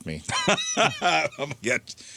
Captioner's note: laughing